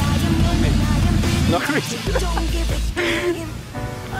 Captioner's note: laughs